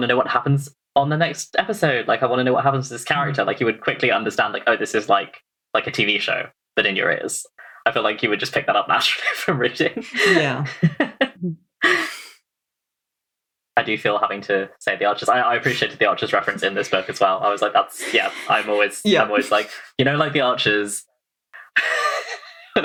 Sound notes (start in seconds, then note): 9.0 laughs